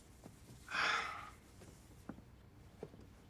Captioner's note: sighs